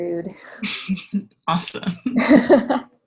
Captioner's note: laughs